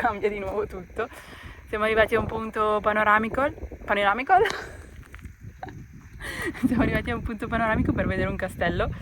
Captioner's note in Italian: risate